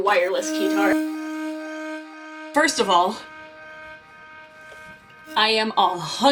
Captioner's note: flashback noise